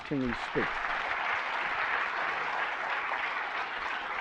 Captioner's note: applause